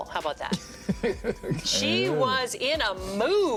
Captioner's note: hosts laugh